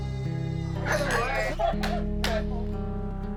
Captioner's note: chatter, laughter